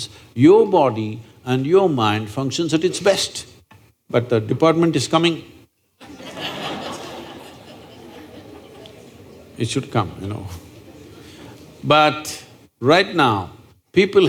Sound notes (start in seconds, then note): 6.0 laughter; 11.5 laughs